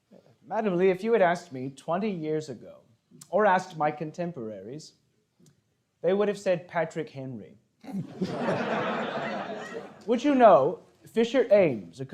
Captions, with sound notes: - Madam Lee, if you had asked me 20 years ago or asked my contemporaries, they would've said Patrick Henry. (audience laughing) Which you know, Fisher Ames,